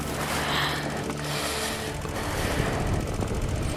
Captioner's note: breathes